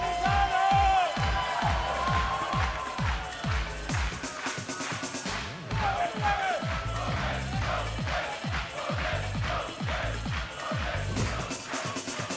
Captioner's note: cheers and applause